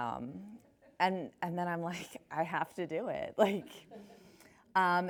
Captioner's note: laughs; chuckles